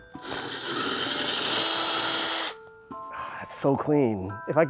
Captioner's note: drill whirring